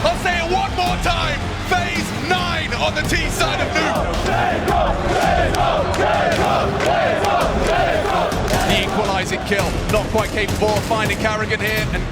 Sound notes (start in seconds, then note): 4.0 crowd